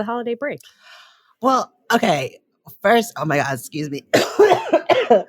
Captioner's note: coughs